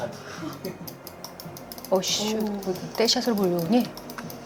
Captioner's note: rapid clicking